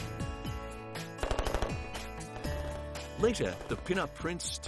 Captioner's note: gunfire rattling